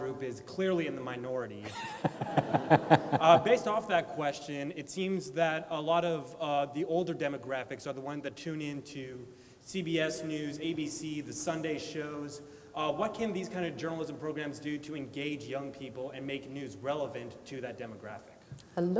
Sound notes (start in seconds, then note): 1.6 laughing